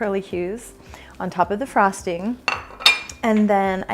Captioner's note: plate clinking